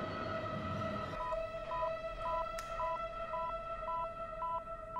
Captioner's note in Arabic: صفير